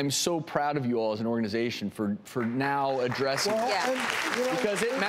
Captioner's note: applause